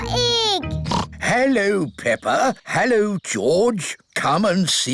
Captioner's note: oinks